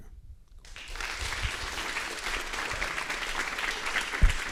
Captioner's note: applause